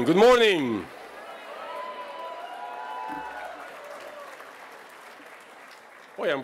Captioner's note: cheering